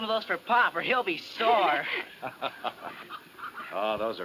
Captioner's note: laughs